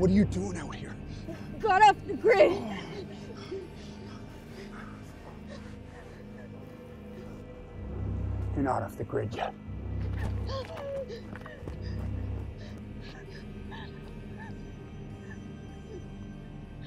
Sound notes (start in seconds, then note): 10.0 Vee gasps, X runs off